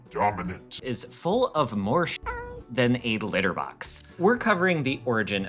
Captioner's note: meow